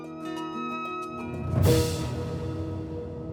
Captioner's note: atmospheric sound